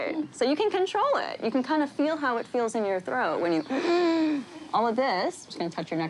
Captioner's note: wheezes